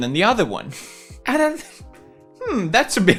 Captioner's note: chuckles